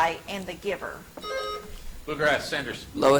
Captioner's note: buzzer chimes